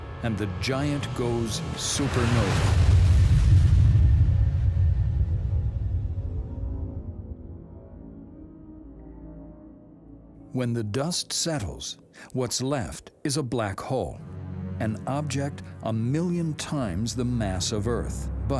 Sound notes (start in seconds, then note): 1.4 explosion blasting